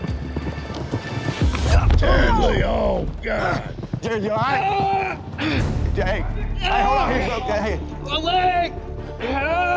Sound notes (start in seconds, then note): 1.8 grunt; 5.9 groaning